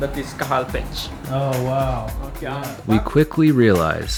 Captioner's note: gasping